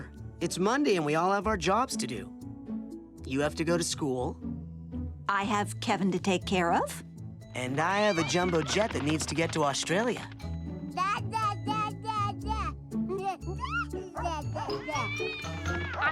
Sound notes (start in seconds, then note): 13.0 Kevin babbling; 14.7 meowing